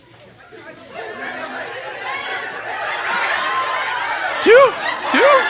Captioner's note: participants excitedly conversing